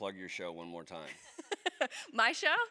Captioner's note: laughs